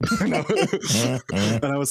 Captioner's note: laughing